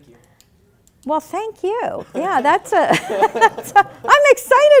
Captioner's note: laughing